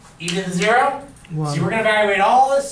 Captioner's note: voiceover